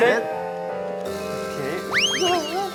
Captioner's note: fluttering